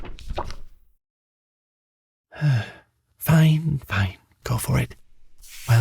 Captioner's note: big sigh